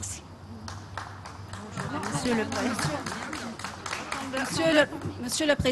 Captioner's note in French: Applaudissements